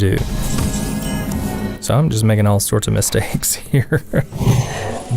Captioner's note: haha